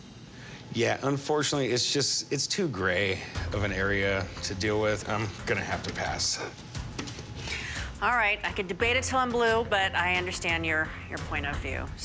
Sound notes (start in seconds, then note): none